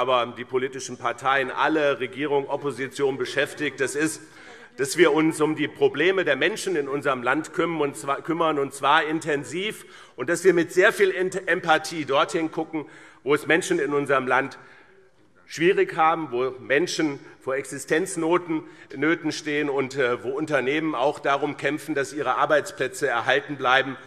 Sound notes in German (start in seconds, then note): none